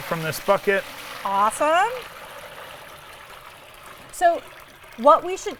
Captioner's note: water whooshing